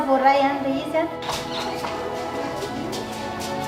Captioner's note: door squeals open - footsteps